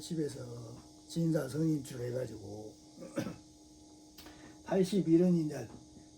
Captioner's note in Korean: 목을 가다듬음